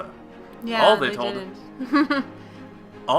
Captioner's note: giggles